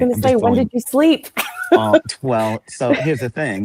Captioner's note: laughs